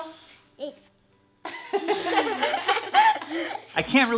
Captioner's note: singing; laughs; laughs